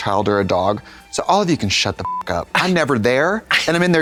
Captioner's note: beep